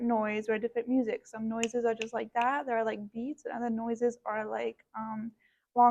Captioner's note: rhytmic Snapping